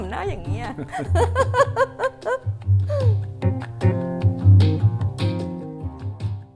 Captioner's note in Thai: เสียงหัวเราะ